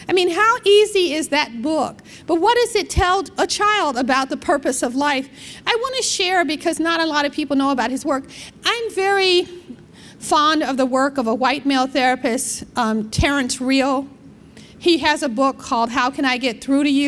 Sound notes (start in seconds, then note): none